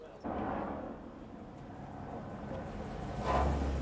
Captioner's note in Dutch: motor rommelt